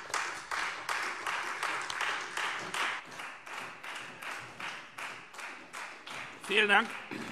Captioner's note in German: Beifall Freie Demokraten und vereinzelt SPD